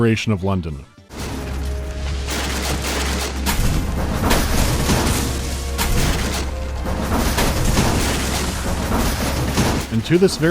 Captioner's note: non-stop crashing